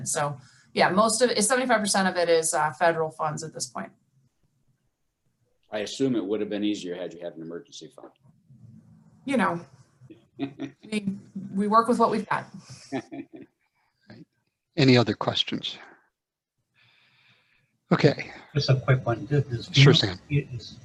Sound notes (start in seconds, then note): 12.9 laughs